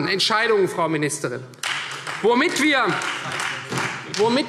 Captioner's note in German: Beifall Freie Demokraten